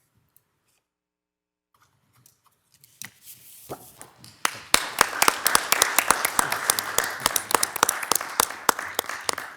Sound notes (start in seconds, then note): 4.0 attendees applauding